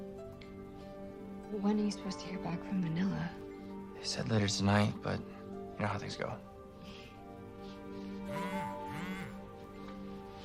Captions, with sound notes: - When are you supposed to hear back from Manila? - They said later tonight, but you know how things gogo. (sighs) (phone chimes, vibratetes)